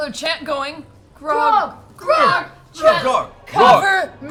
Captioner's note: chanting